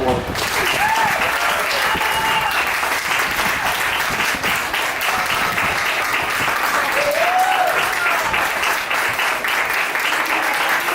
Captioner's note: applause